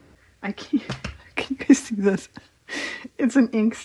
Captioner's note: laughs